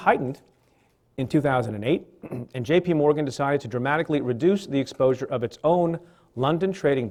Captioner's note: clears throat